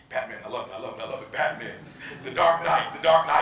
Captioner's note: audience laughing